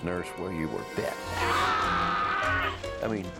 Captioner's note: yelling